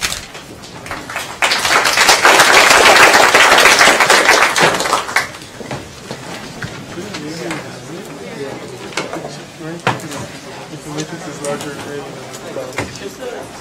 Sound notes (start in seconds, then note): 0.7 applause; 3.3 indistinct conversation